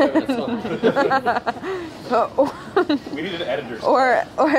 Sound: laughs

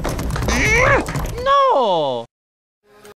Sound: grunts

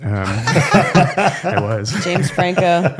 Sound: laughing

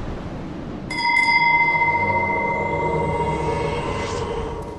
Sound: ding

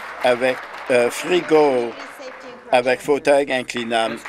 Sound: some Applause

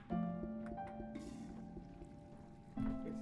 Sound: toilet flushes

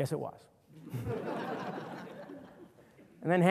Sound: audience laughter

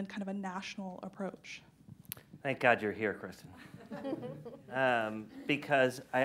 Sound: laughter

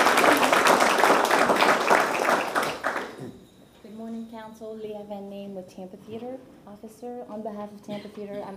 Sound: applause

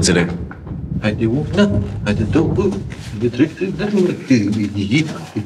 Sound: humming and stomping

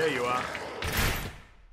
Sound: gunshot

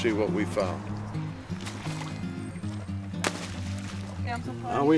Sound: splash

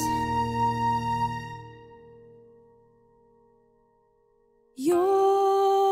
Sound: silence

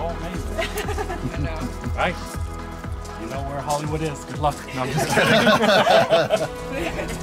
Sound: laughter; laughter

